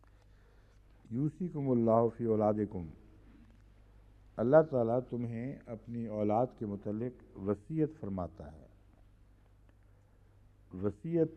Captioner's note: Arabic